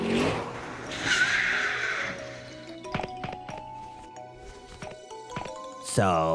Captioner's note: skiiiirrrrrrttt